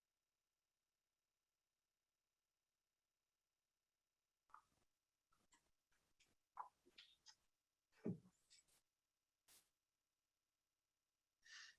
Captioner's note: silence